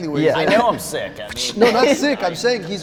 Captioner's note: laughter